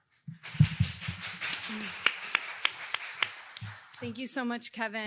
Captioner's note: audience applauding